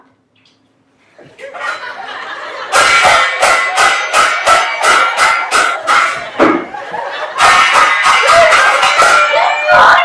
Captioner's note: loud banging sound